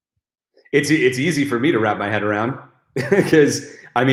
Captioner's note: chuckles